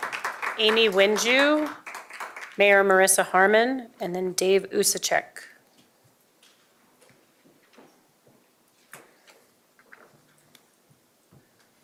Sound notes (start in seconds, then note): 2.0 applause